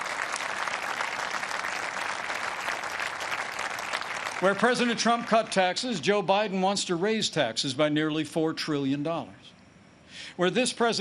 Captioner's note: applause